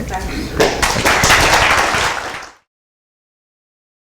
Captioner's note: applause